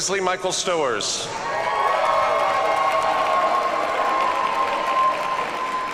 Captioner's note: audience cheers and applauds